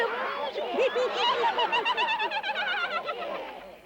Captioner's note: laughter and happy chatter